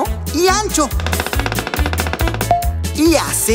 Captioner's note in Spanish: Sonido de pájaro carpintero